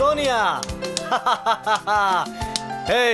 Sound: laughing

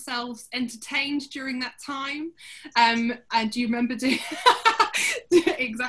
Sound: laughter

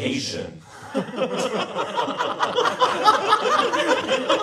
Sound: every Bo laughs

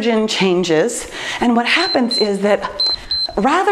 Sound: timer beeps

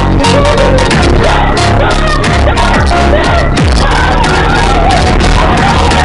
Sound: yelling

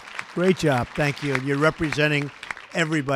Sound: applause

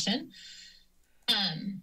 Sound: inhales

